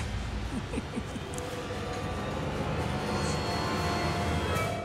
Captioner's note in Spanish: risas